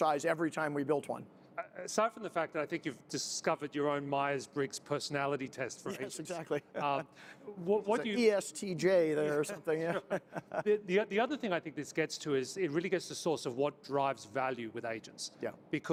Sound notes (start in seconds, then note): 9.7 laughs